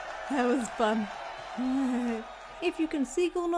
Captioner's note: laughing